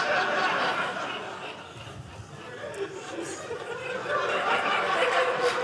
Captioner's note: audience laughing